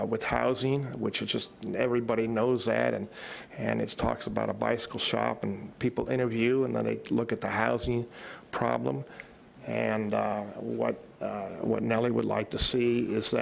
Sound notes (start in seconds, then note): none